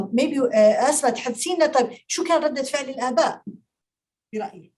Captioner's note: speaking Arabic